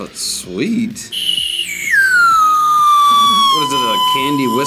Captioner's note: candy whistles